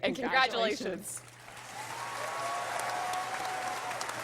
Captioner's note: applause